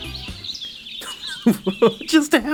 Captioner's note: laughs